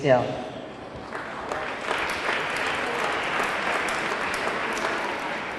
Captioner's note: audience clapping